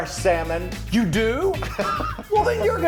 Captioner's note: laughs